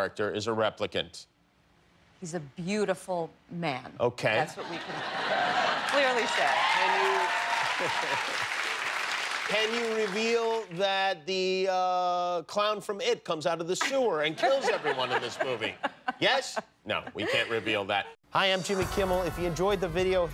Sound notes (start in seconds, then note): 5.8 cheers and applause